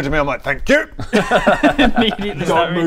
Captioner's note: reading noises